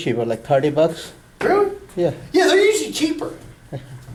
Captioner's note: voiceover